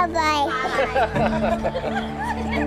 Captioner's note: laughing; soft music